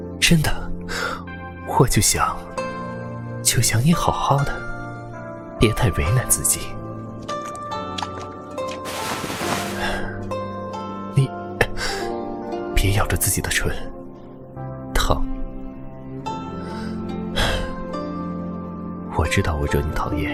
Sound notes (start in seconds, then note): 17.4 sigh